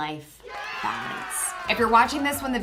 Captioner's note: crowd cheers